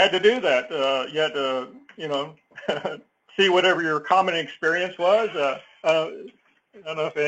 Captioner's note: laugh